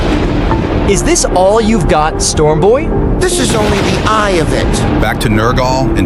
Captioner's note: coldly